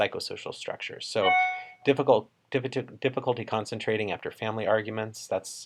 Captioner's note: computer chimes